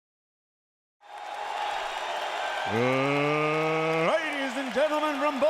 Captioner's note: crowd cheering